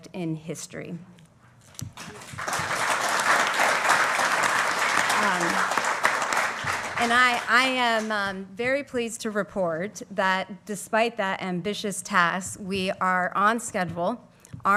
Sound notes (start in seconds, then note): 1.9 applause